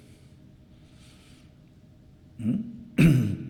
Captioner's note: clears throat